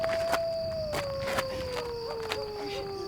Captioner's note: dogs howling loudly